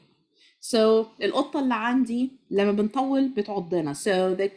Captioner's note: speaking Arabic